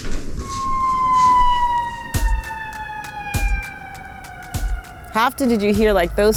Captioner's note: police sirens wail